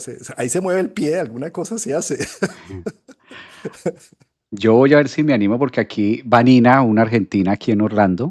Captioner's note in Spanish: risas